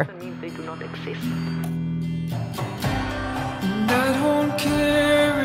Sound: speaking faintly

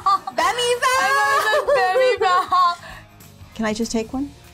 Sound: laughs

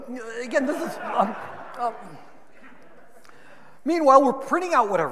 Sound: audience laughing

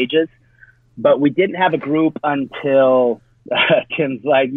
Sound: laughs

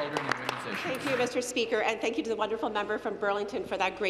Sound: applause

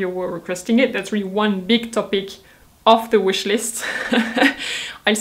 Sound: chuckles

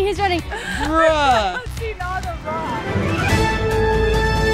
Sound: laughs; cheery music

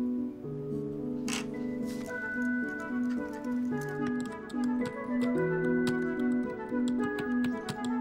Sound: typing

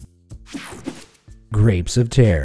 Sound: image whooshing

